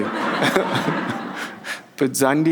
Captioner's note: and audience laughs